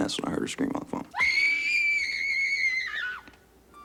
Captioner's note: scream